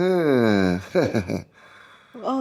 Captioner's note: laughs